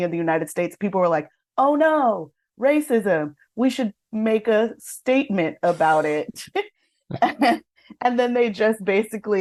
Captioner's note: chuckles